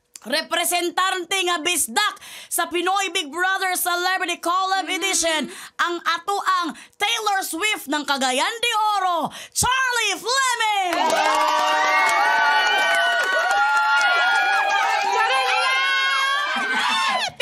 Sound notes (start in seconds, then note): 10.8 cheering, clapping; 10.8 shouts; 16.5 chuckles